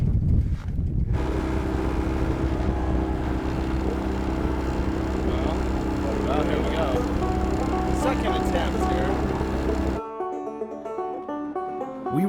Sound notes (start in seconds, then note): 1.4 engine whirring; 10.0 mellow banjo music